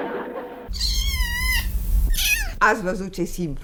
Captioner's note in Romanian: Miorlăit de pisoi